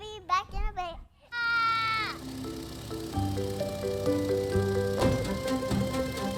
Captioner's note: screaming